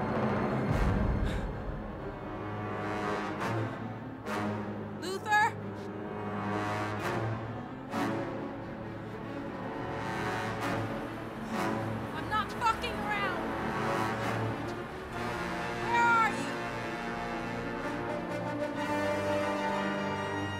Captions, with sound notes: (heavy breathing) (dramatic music) Luther? I'm not fucking around! Where are you? (light dramatic music)